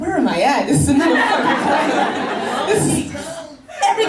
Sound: laughing

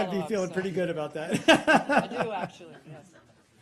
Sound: laughing

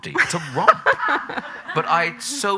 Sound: audience laughing

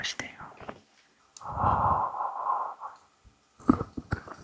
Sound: blowing for warmth

